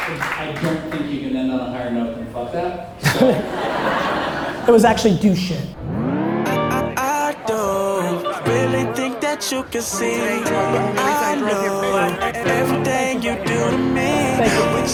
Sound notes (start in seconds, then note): 3.0 audience laughter